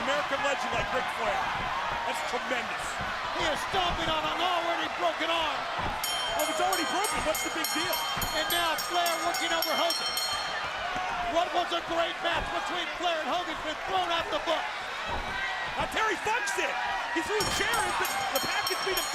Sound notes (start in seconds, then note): 6.0 bell ringing